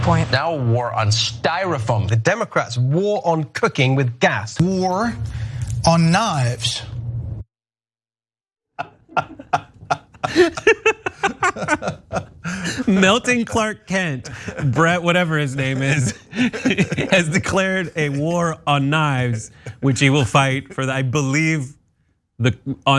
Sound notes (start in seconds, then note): 9.0 laugh